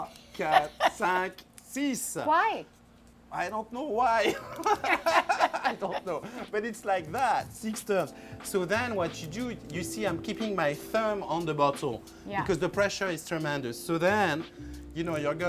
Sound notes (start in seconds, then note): 4.2 laughs